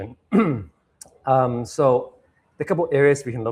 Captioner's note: clears throat